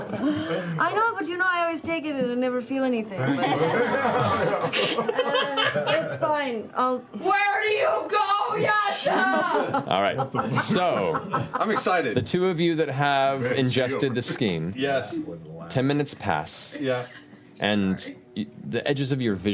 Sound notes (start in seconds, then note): 3.2 laughter; 8.2 shouting